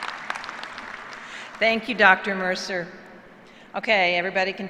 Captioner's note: applause